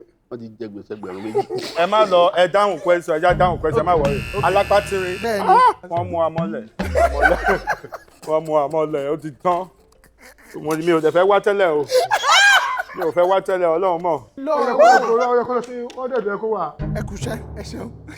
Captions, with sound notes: They now owe two thousand dollars. Relax, don't worry. Let's just answer the question. A person with tiny hands... Yes. Ahh... we have been caught. (Everyone laughs) I didn't even want to come in the first place. (Everyone laughs.) Even God knows I didn't want to come. (Everyone laughs) It should be at one hundred dollars. Well done.